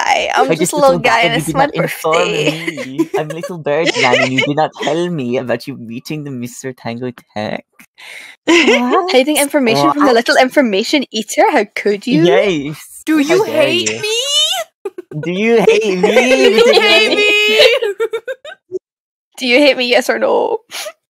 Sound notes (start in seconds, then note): 3.3 laughing; 15.0 everyone giggling